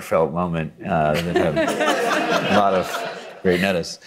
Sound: audience chuckles

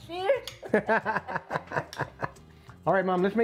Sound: both laugh

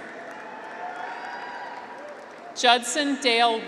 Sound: graduates cheer

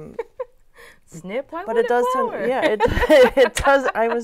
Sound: laughing

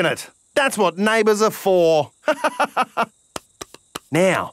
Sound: laughs

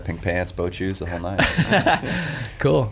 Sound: laughs

